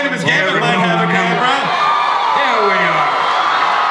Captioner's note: audience cheers